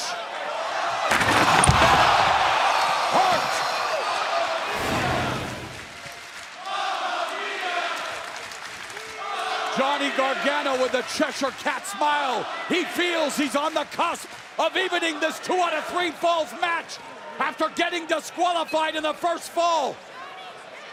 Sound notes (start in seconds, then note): 5.2 crowd cheering